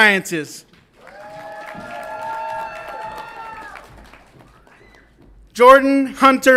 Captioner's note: audience applauds and cheers